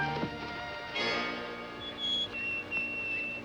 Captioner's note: bird Call